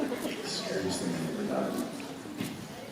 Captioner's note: whispering